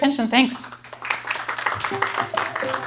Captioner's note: applause